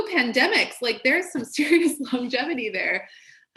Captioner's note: laughs